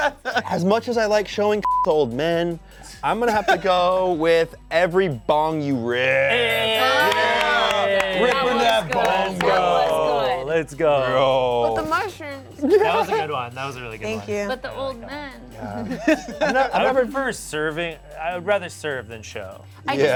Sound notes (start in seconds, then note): 1.6 beep; 6.4 bell dings; 12.6 laughs; 15.6 laughs